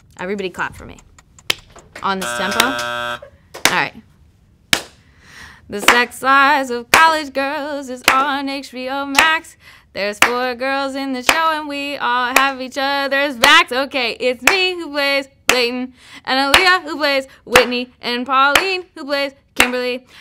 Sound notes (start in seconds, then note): 2.2 buzzer